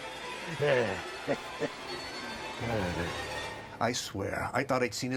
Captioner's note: Pappy sighs and laughs